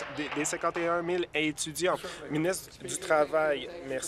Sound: applause

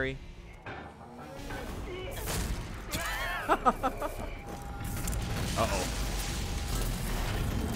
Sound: laughs

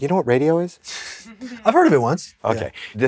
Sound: scoffs, crew giggles

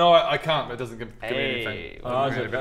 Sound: impressed noises

